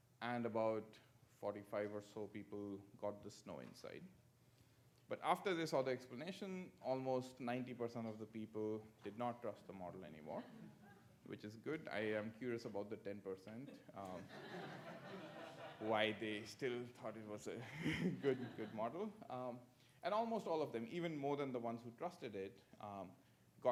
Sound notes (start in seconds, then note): 14.1 audience laughs